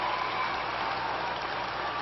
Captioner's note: applause